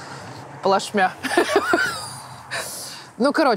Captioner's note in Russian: смеется